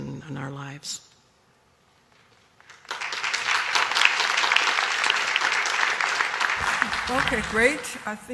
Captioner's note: applause